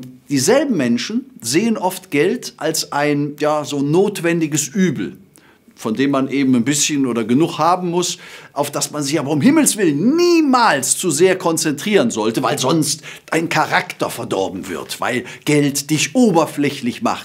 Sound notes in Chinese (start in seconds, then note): 4.5 英语